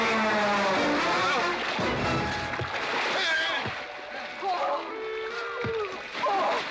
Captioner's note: splashing around